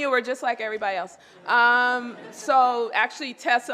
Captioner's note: laughter